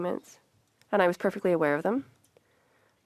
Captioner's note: speaking French